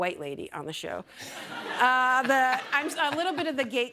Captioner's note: laughter